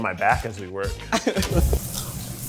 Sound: laughing; laughs

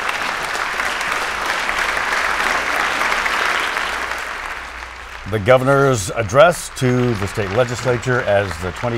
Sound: applause

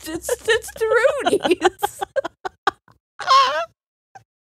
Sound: both laughing

